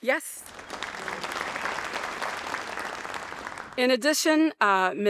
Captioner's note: audience applauding